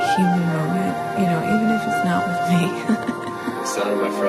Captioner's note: laughs